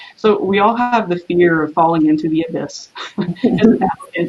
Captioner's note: laughs